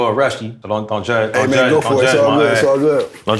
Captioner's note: rubs hands